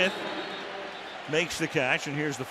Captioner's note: whistle blows